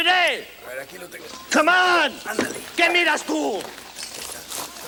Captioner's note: speaks Spanish